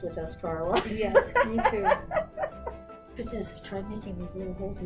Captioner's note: laughs